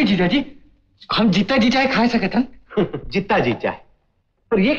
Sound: chuckles

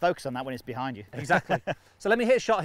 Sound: laughing

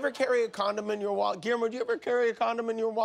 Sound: laughter

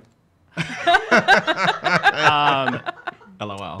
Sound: laughing

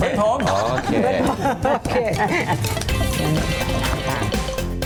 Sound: laughing

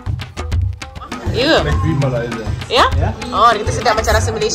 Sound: speaking German

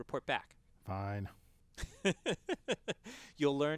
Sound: laugh

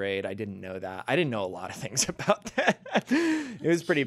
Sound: laughs

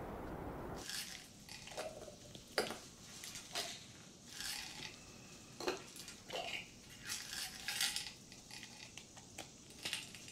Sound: sizzling pan in the background

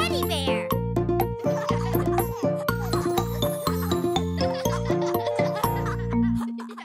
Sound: upbeat music; children giggling

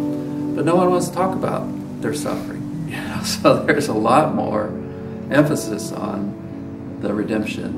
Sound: chuckles

